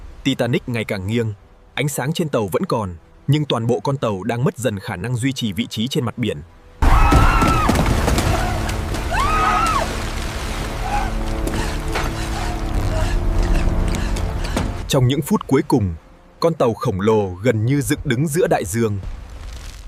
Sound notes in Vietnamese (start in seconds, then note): 9.0 la hét